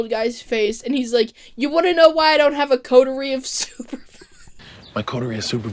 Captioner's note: wheeze